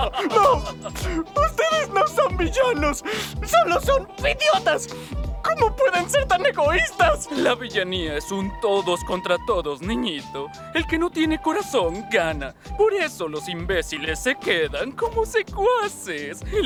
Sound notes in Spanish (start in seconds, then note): 0.0 Carcajadas perversas; 6.1 Llorando